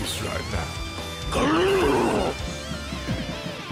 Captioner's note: aggressive but cordial growl